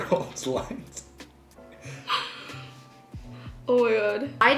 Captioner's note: both laughing